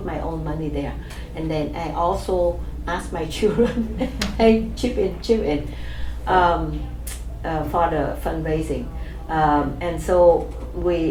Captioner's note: laughs